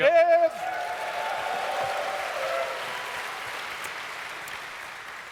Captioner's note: audience cheers